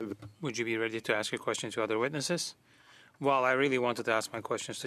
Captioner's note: speaking French